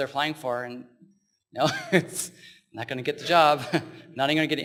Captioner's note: laughs